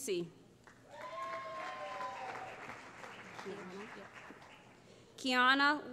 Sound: cheering

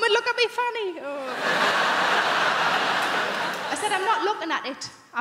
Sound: crowd laughing

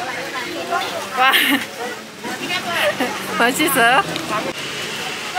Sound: laughing

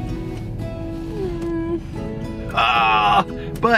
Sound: whimpers

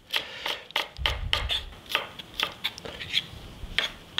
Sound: knife cutting

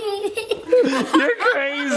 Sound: laughing

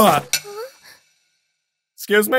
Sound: clack

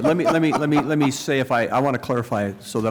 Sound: laughter

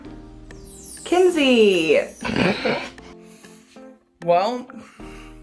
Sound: chuckles

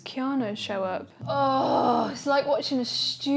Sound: groans

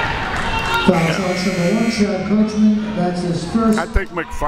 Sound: buzzer

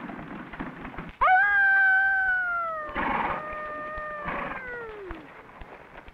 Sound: man howls like a coyote

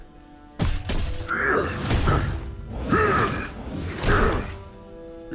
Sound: grunting

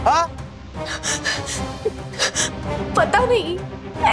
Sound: sighing

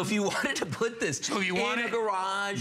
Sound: laughter

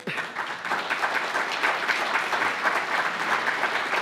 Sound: applause

